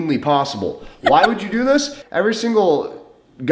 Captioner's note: giggles